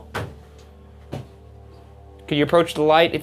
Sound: object thumping

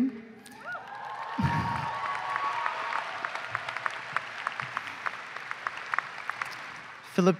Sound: applause

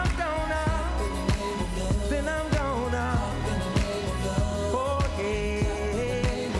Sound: whooh

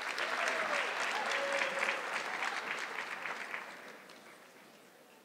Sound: audience clapping

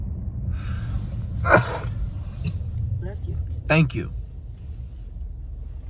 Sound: coughs; sneezes

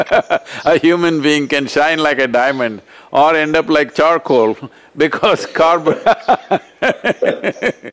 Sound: laughs; laughter

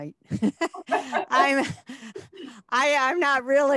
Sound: laughing

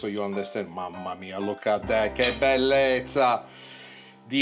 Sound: in Italian

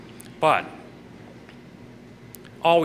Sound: none

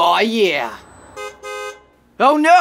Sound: bus honking outside

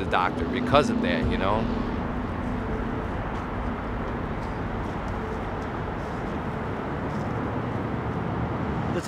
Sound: traffic sounds

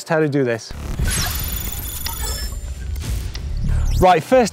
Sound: electronic beeping

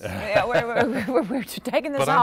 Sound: laughter

